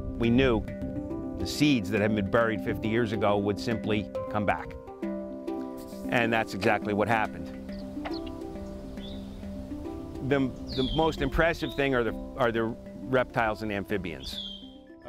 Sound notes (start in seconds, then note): 8.0 bird tweeting